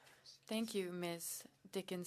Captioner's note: speaking French